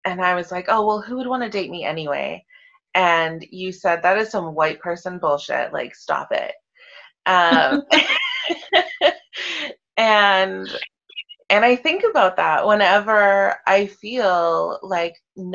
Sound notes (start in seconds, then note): 7.4 laughing